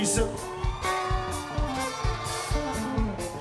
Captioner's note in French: cris d'enthousiasme